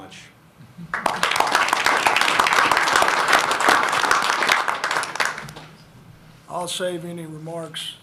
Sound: applause

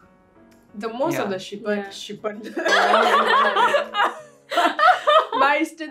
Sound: laugh; laughs

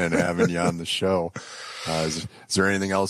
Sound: laughs

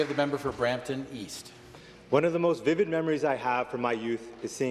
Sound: applause

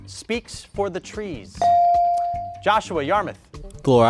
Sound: buzzer pings

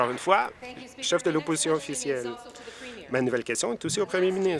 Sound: applause

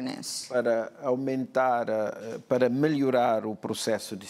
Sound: speaking portuguese

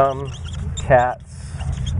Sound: loud rumbling noise

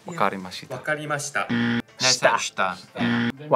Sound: buzzer rings

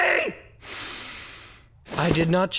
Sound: inhales

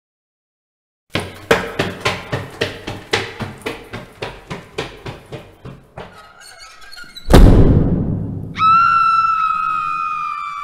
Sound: sound of running, door slam and scream

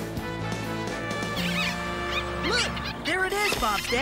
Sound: bunnies Squeaking

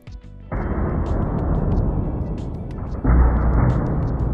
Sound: rig booms

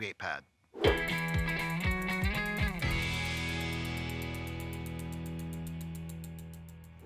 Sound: bicycle clicking; gentle upbeat music

